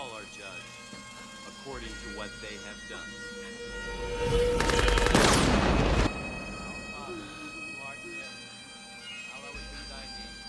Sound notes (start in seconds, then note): 5.1 gunfire; 6.6 sobbing